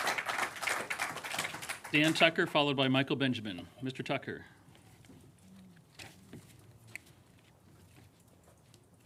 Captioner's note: applause